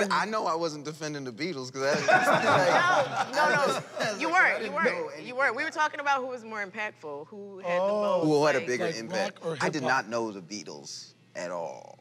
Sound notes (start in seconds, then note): 1.8 laughter